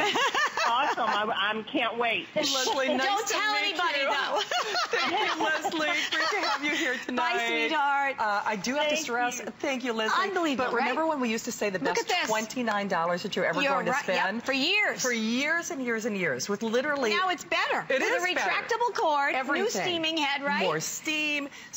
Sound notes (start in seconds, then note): 7.5 laughter